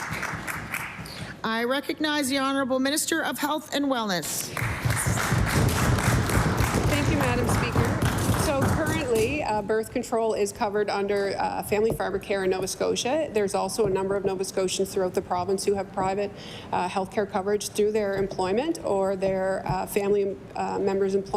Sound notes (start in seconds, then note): 4.5 some Applause; 9.2 applause